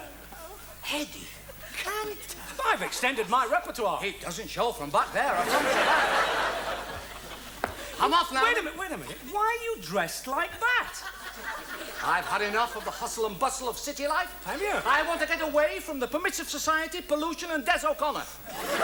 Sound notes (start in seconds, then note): 5.1 audience laughs